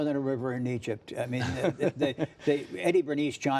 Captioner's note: laughter